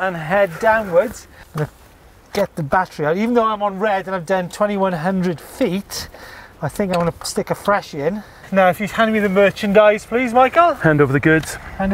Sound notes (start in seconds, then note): none